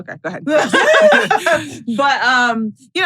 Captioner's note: laugh